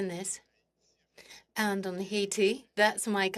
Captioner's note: speaking French